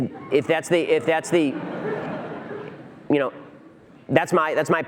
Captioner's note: audience laughter